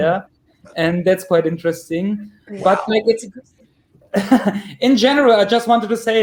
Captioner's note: chuckles